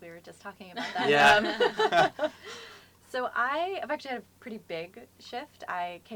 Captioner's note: laugh